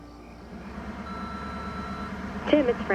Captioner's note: answering machine beeping